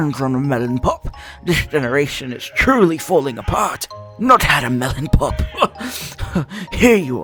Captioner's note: scoff